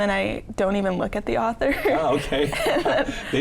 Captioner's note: all laughing